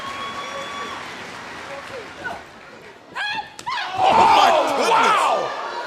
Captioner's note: cheers and applause